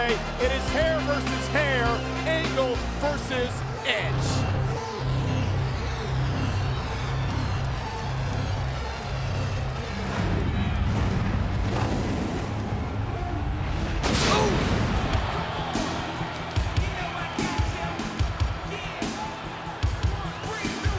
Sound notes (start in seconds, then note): 4.6 intense theme music; 13.6 fireworks exploding